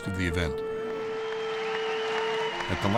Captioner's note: audience cheering and applauding